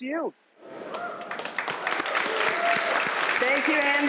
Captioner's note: applause